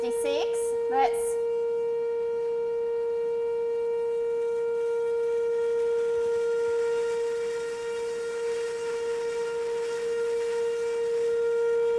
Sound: tone diminishes

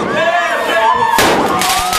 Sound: firework explodes; firework launches

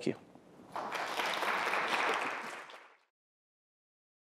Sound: audience applauds

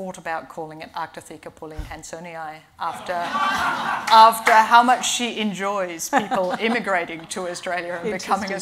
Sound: laughing

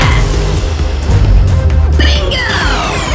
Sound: loud blast and BOOM!; defeated drone bleeps

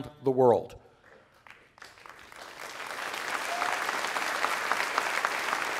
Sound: applause

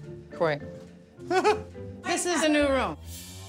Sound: chuckles

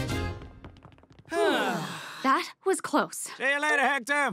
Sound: sighing

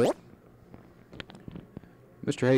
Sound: silence

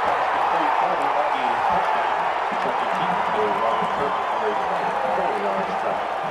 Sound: crowd cheering; crowd cheering

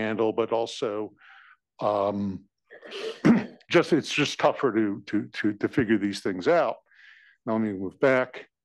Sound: cough

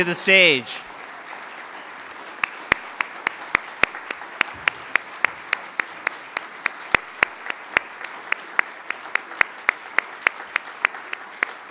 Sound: applause

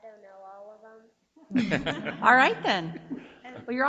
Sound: board laughing

